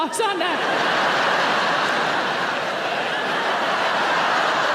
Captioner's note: audience laughing